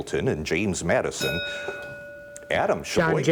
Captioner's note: bell dinging